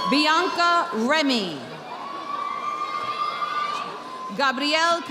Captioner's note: audience applauding